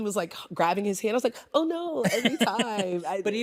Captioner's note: chuckles